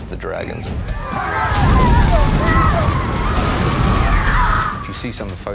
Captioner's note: screaming